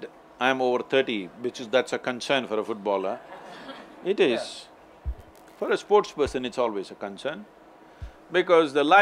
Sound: few laughs

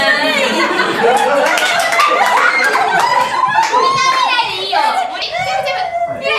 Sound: scream

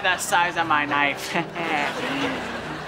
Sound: chuckles

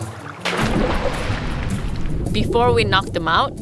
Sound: water splashing

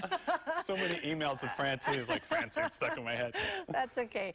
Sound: laughter

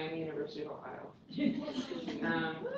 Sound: laughter

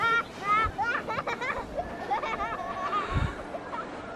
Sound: laughing

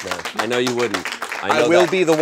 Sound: audience applauds

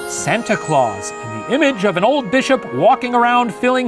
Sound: jingling bells

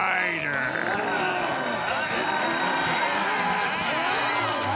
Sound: moaning

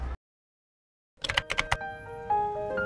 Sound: typing

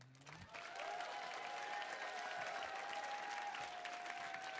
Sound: audience cheering

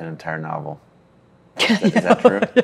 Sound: laughs

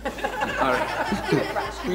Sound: laughs

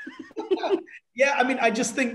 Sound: laughs

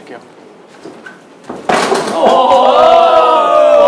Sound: punching

